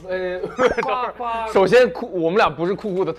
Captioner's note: holding back laughter